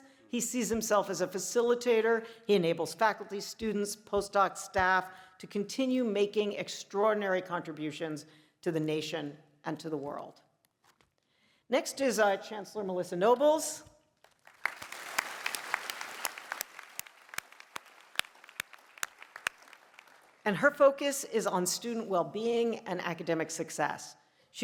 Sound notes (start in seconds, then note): 14.2 applause